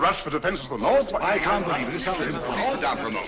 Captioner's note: crowd clamoring